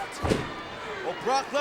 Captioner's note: kick thuds